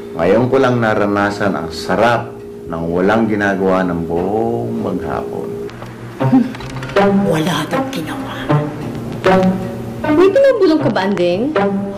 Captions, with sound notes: I've only now realized the pleasure of doing nothing all day. [scoffs] He didn't do anything... Are you muttering something, Andeng?